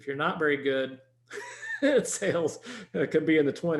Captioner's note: laughing